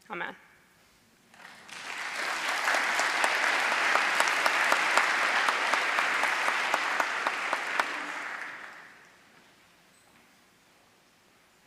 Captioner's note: applause